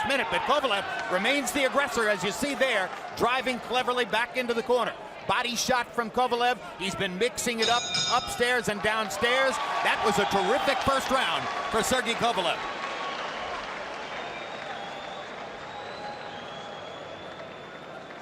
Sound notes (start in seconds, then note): 5.1 bell dings; 7.7 cheers, applause